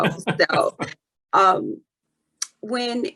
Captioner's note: laughs